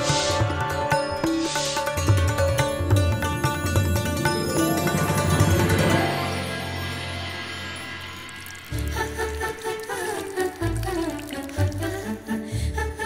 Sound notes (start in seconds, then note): 8.5 trickling